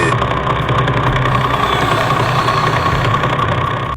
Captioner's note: real pulsar emission sounds; strained, distorted voice